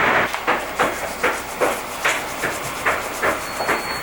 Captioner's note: unpacking noises